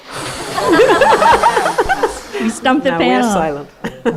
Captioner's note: audience laughs